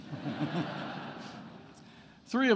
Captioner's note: attendees laughing